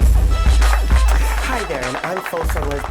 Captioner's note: applause